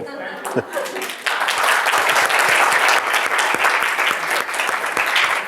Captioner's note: applause